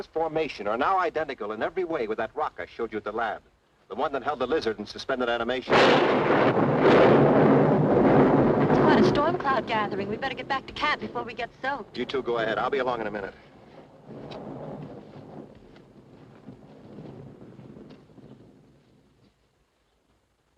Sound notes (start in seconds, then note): 5.5 thunderclap crashes; 13.9 thunder rumbling